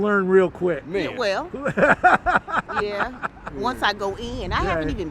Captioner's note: laughs